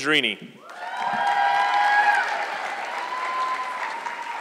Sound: audience clapping

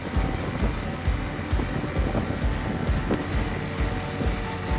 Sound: boat engine noise

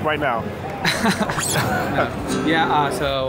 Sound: laughs

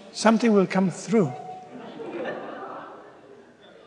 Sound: laughter

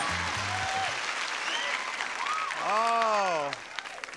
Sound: audience applauding

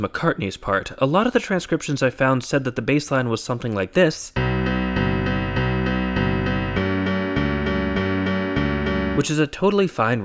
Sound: bang

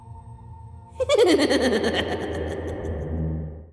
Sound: woman laughs

